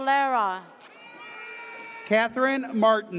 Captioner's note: audience cheers